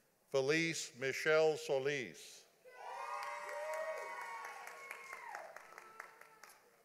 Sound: audience applauding

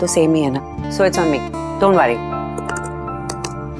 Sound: typing on keyboard

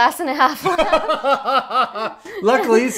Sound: laughing

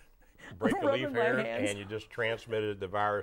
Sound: laughing

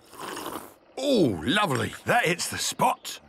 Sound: sipping

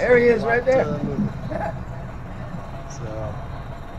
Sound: laughs

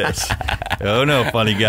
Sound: laughing

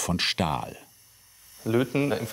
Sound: soft whirring

